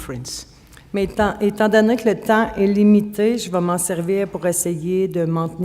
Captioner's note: speaking French